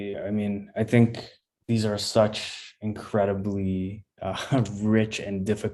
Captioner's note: chuckles